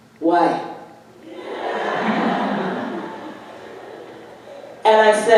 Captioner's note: audience laughing